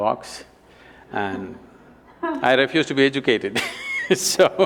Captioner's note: Juhi Laughs; laughs